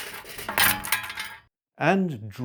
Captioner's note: clattering